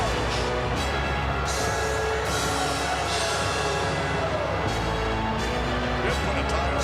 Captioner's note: bombastic music continues; crowd booing